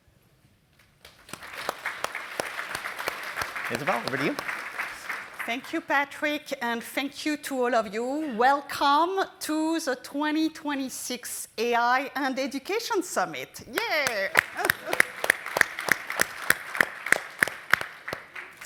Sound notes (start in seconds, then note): 1.0 applause; 13.7 applause